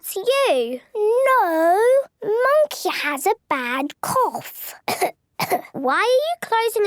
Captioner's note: pretending to cough